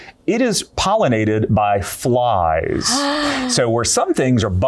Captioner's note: gasps